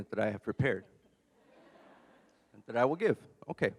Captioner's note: audience laughs